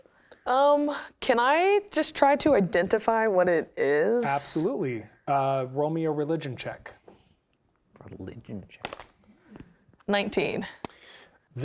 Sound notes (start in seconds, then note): 8.2 quietly; 8.8 dice rolling